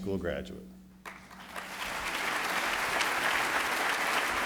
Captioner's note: applauding